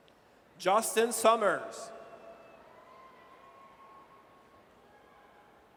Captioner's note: audience cheers